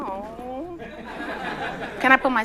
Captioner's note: laughter